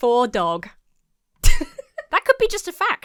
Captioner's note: laughs